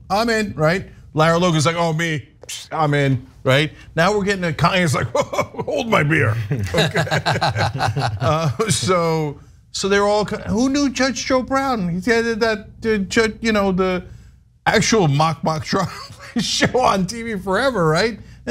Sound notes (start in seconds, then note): 4.9 laugh